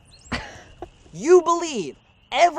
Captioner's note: Andrea scoffs